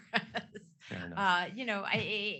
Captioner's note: chuckles